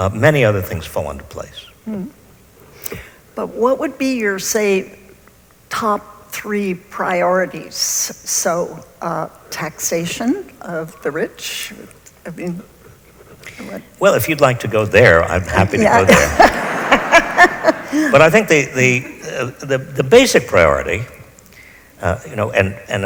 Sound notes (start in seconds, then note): 15.7 laughs